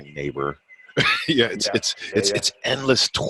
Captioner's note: laughing